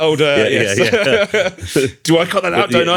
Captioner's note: laughter